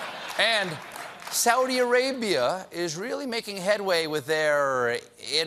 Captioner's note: laughter